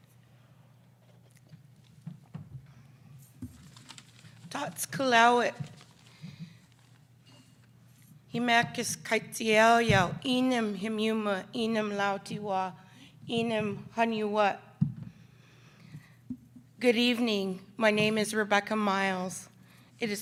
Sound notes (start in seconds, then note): 5.1 speaks in foreign language